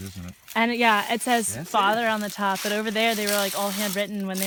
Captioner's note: crunching leaves